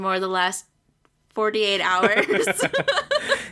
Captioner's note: laughs